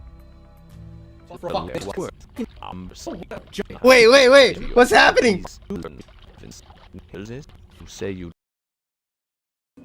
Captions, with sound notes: [Jerma and Seaman babble sped-up] Wait, wait, wait! What's happening? [Seaman babbles sped-up]